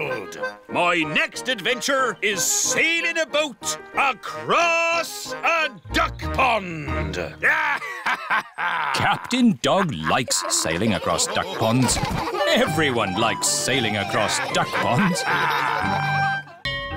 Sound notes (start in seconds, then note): 6.8 laughs; 15.0 all laughing